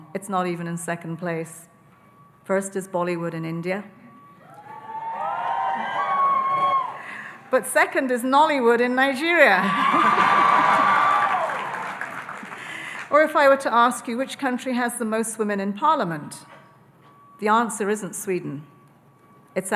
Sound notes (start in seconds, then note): 4.5 audience cheering; 9.7 audience cheering and applauding